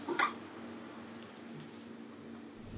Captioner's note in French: none